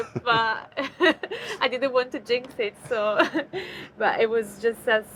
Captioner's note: chuckles